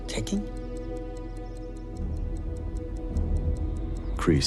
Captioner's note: ticking continues